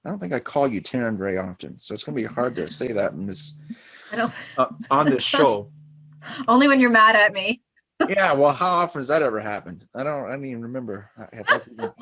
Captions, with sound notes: I don't think I call you Taryn very often, so it's going to be hard to say that miss. - I know. - On the show. - Only when you're mad at me (laughs). - Yeah. Well, how often has that ever happened? I don't, I mean remember,